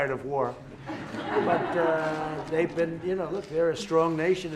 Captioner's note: laughter